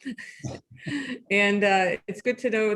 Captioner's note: laughing